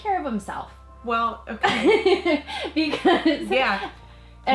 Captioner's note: laughs